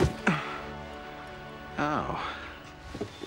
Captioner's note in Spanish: gruñidos